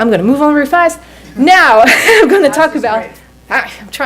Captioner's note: laughs